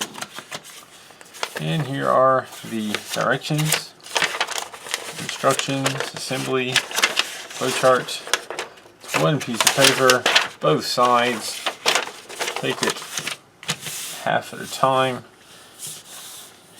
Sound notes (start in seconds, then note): 4.2 paper crinkling